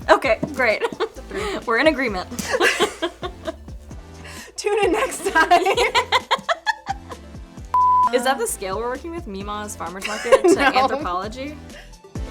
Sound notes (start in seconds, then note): 0.6 laughing; 7.7 screen beeping; 10.0 laughs